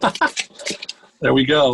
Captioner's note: chuckles